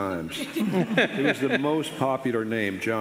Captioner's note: audience and panelists laughing